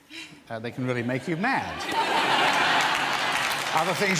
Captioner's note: audience laughs